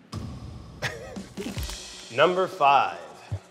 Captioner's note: laughs